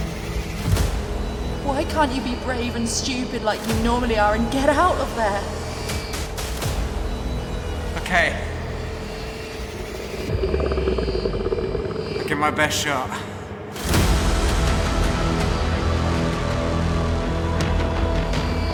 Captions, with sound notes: Why can't you be brave and stupid like you normally are and get out of there? - Okay. (creature growling) Give it my best shot. (suspenseful orchestral music)